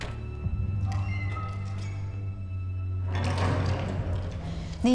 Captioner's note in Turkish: Kapı kapanma sesi